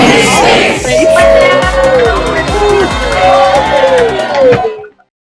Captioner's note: students cheering